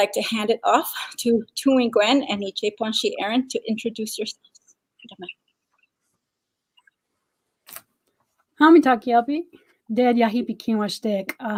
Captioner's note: speaking Dakota